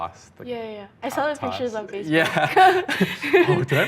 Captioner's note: laughing